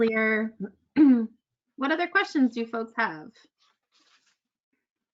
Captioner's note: clears throat